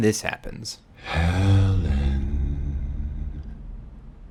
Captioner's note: ghostly Voice